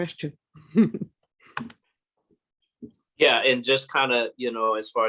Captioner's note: laugh